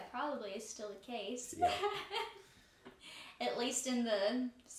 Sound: chuckling

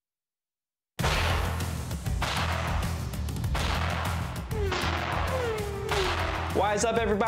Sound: intense music; vehicles whooshing

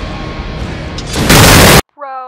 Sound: boom

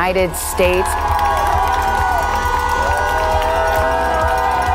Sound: crowd cheering

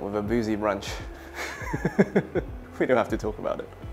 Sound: laughs

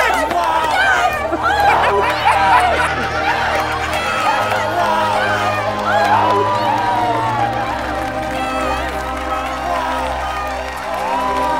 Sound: cheering

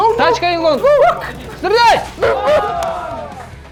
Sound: intense fighting

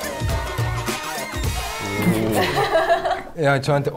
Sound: cries

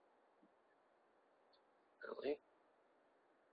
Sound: mumbles

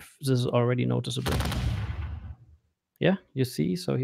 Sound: volley of booming sounds

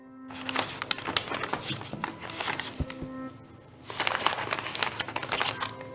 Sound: rustling sounds

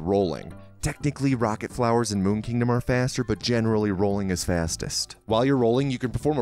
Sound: whispering

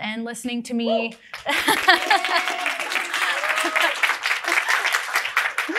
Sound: audience applauding

